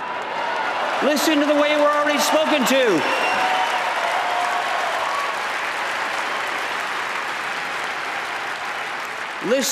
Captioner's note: applause